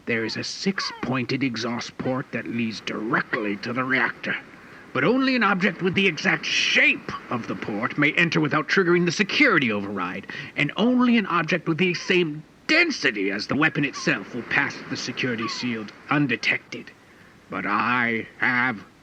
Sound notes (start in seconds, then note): none